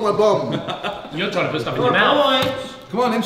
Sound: laughing

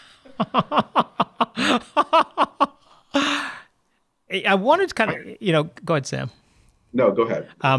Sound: laughs

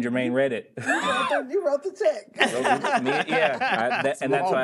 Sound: crowd laughing

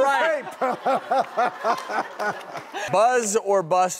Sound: everyone laughs

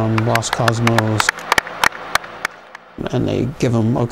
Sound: clapping

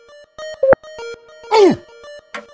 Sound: beeps; Peppino gasps, clock ticking

